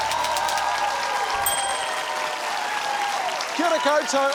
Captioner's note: bell dings